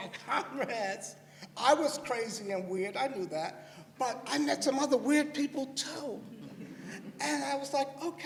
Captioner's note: laughter